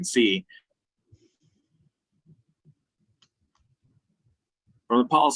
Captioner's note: audio cut out